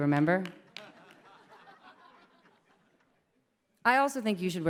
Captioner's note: laughter